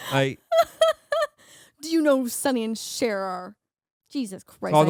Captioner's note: laughing